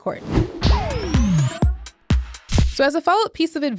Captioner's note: whooshing; upbeat music